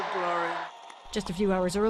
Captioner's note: cheering